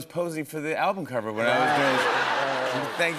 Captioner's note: laughter